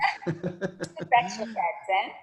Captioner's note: both laughing